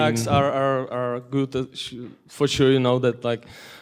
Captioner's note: voiceover